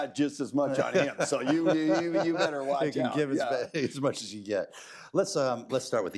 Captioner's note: laughs